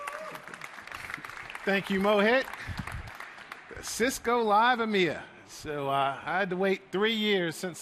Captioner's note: applause